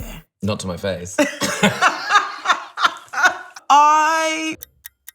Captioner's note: laughter